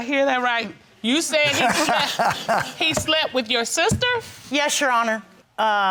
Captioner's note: man laughing